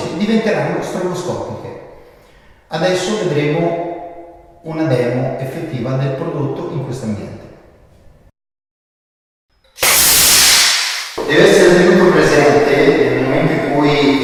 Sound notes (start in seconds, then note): 9.7 smoke discharge